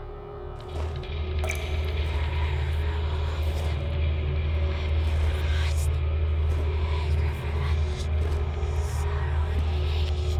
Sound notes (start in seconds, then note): 3.4 ghostly whispering; 3.4 suspenseful music